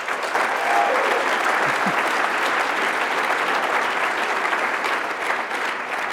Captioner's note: applause